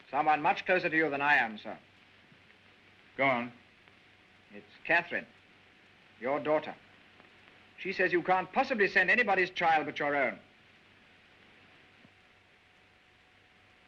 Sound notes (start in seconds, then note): none